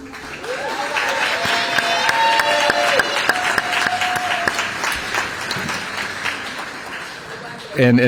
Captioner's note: applause